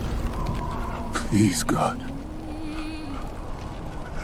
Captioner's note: thunder rumbling